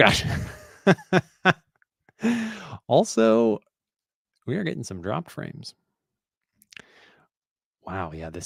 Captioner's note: laughs